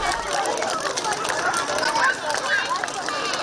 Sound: clapping

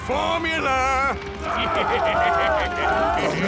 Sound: laughing; screaming

